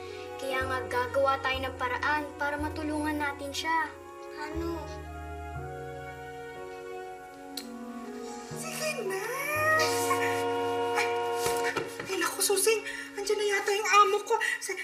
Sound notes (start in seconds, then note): 7.5 clicks tongue; 9.7 nanny gasps; 9.8 car horn honks